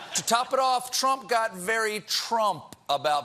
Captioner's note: laughter